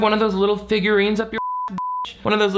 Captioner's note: beep